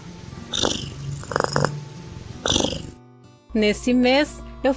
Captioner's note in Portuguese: ronrom